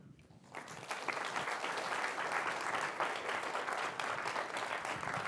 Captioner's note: applause